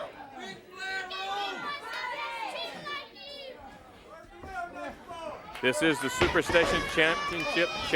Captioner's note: crowd chatter